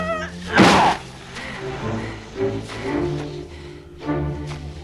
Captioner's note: Torente groans